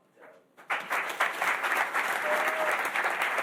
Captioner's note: applause